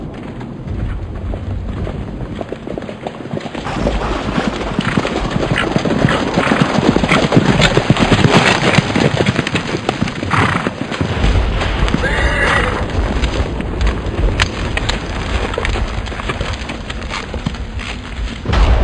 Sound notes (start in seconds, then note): 0.2 wagon wheels racing on a rough road; 6.2 sound of horses, wagon, and storm